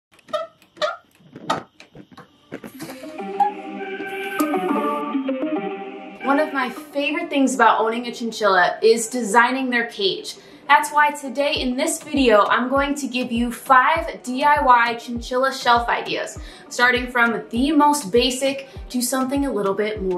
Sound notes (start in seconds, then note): 0.1 obnoxious squeaking